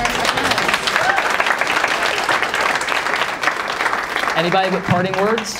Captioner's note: applause